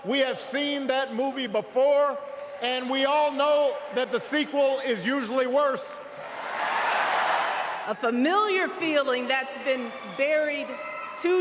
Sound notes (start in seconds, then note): 7.8 applause; 7.8 cheering